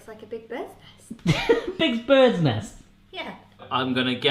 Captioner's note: laughing